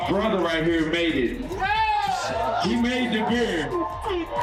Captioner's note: cheering